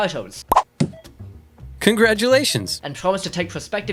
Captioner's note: pop